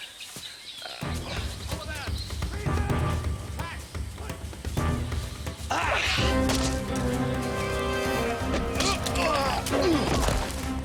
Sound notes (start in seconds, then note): 0.2 suspenseful music; 5.3 scuffling